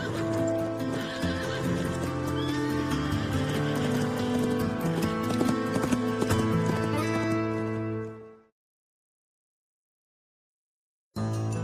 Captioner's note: whinnying